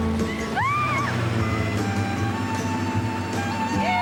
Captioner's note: shrieking